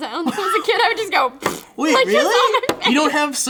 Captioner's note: splat